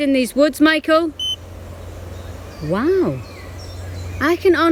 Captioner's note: beep